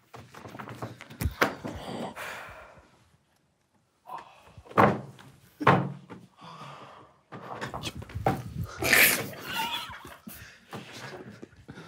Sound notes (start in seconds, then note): 0.1 cards gently hitting the table; 4.0 group quietly groans; 4.8 hitting table; 7.4 shuffling cards; 8.7 group quietly laughing